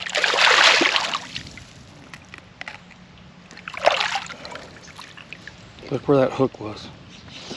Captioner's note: fish splashing